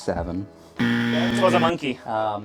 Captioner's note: buzzer